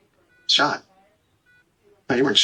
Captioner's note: heart monitor